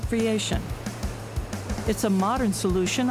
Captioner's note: water rushing